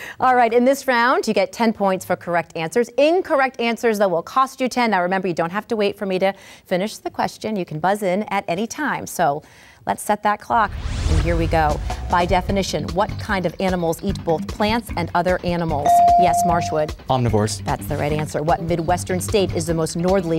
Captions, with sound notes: - Alright, in this round you get 10 points for correct answers. Incorrect answers, though, will cost you 10. Now remember, you don't have to wait for me to finish the question, you can buzz in at any time. So, let's set that clock and here we go. By definition, what kind of animals eat both plants and other animals. (ding) Yes, Marshwood. - Omnivores. - That's the right answer. What Midwestern state is the most northerly